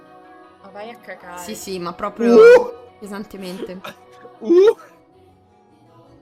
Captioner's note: "oohing" his approval